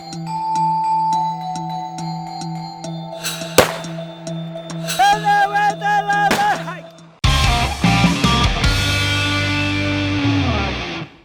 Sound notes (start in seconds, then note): 3.5 shot fired; 5.0 tribal chants